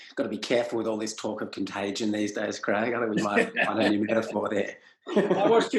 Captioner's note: both laugh